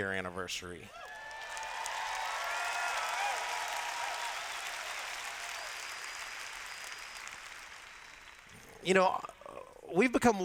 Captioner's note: cheers